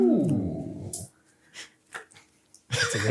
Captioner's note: laughs